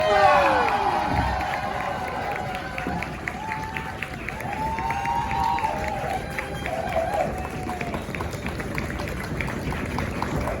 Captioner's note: audience cheering